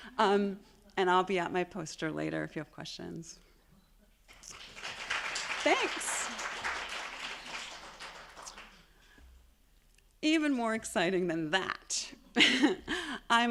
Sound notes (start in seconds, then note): 4.3 attendees applauding; 12.3 chuckles